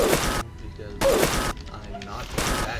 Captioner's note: oof